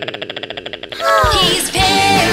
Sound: platypus sound; woman swooning

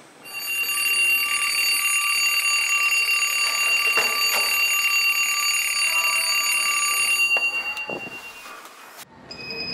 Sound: ringing

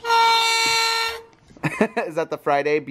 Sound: blows trumpet; laughs

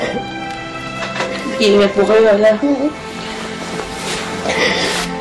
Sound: sobbing

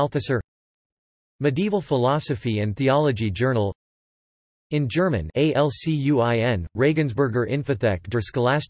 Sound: in German

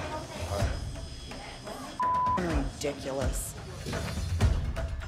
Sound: beep

